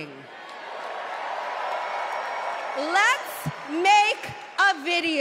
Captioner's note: cheers and applause